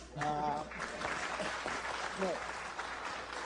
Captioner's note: applause